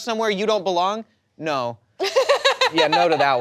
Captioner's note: people laughing